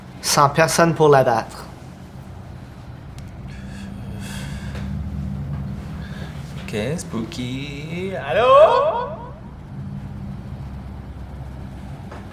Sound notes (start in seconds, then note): 8.2 echo